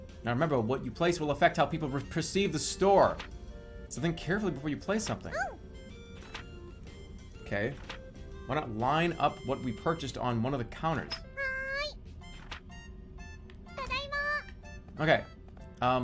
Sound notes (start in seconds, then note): none